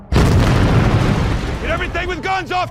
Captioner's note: exploding sound